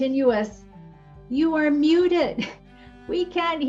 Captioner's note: chuckles